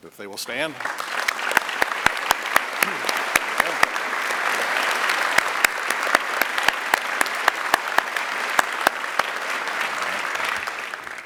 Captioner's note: applause